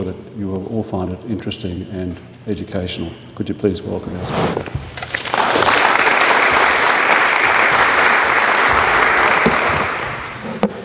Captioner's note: applause